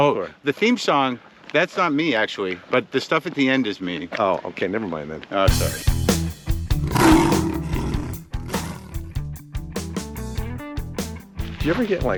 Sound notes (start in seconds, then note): 5.5 upbeat music playing; 6.7 bobcat roaring; 8.8 upbeat music continues